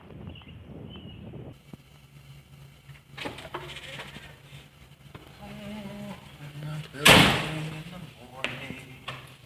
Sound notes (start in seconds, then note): 5.7 humming